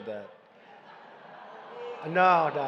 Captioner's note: laughter